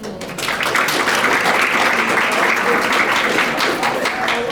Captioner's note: audience applauding